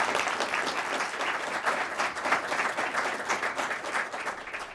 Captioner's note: applause